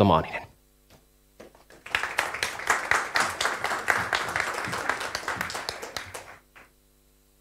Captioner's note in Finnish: Aplodeja